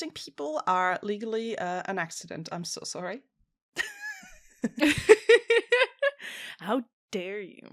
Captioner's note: laughter